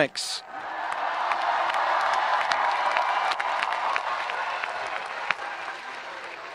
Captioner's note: audience applauding and cheering